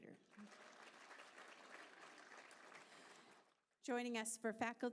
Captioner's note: applause